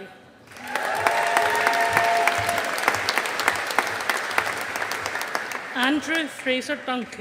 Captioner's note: audience applauding